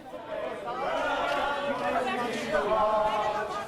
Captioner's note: crowd chanting